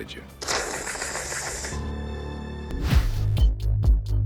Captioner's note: hissing; theme music